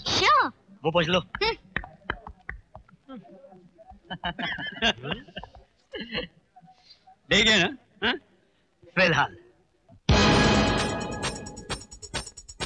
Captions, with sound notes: Sure. - Get lost. [Laughing] He took her away, isn't it? - For now. [Rock Music Playing]